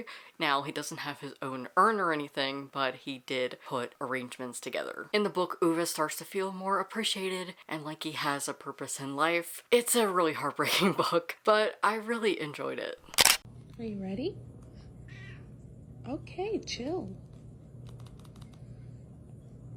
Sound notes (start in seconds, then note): 13.1 camera shutter; 15.7 cat meows